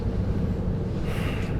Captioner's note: sighs